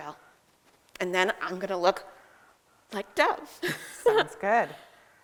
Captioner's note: giggles